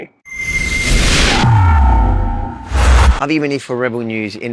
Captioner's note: buzzing sound